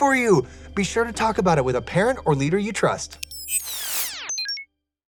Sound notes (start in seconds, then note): 3.1 upbeat music; 3.4 electricity crackling